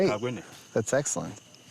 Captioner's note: snoring softly